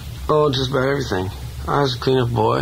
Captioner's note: voiceover